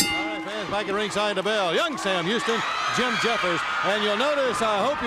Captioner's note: bell ringing